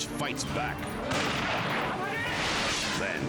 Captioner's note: shot fires